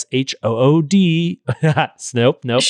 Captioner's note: laughing